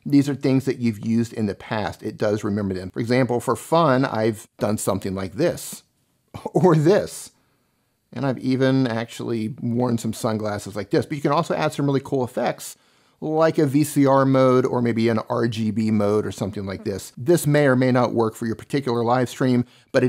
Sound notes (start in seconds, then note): 6.3 chuckles